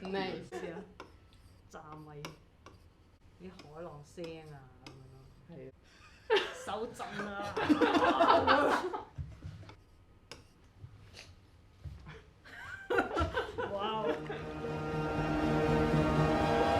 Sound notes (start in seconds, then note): 7.8 group laughter; 14.0 enchanting music begins